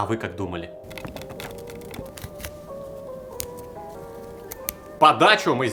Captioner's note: crumbling sounds